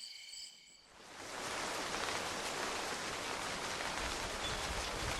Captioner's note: rain pattering